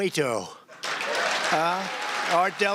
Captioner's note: crowd applauds